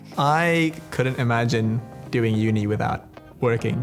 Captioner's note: none